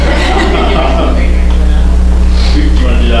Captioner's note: laughter